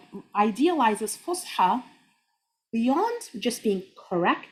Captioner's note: speaking Arabic